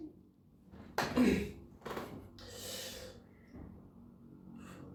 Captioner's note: clears throat